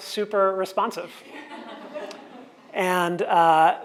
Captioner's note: audience laughs